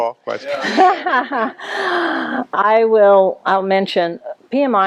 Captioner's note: laughter